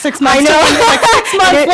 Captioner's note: laughs